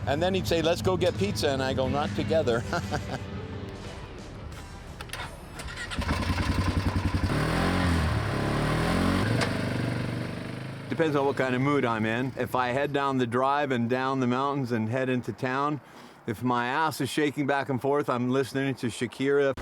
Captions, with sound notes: And then he'd say, Let's go get pizza. And I go, Not together. [engine starting] [engine revving] Depends on what kind of mood I'm in. If I head down the drive and down the mountains and head into town. If my ass is shaking back and forth. I'm listening to Shakira.